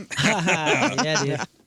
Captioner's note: laughing